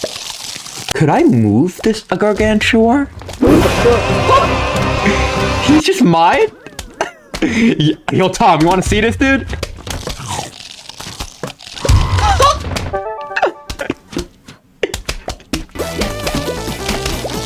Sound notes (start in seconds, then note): 4.4 laughs to myself; 6.4 inhales Oxygen; 8.0 something in Spanish; 12.3 laughs to myself